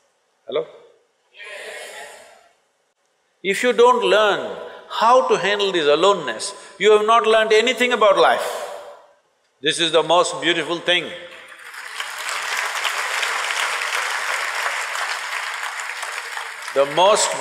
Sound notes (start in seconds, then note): 14.7 applause